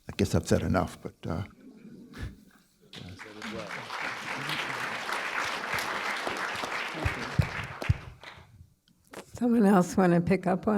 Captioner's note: applause